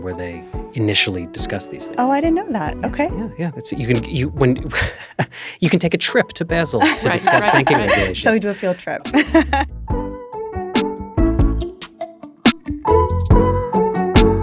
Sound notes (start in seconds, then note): 9.4 laughs; 10.6 soft music